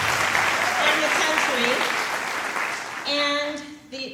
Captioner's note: applause